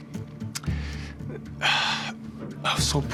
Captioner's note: sighs